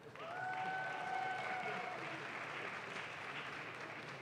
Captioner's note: audience claps